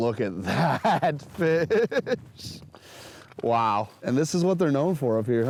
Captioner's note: laughing